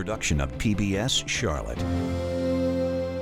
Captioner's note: uplifting music; voiceover